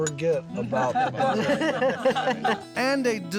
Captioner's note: laughter